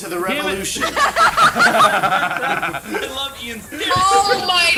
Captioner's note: group laughs